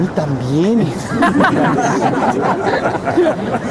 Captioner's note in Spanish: risas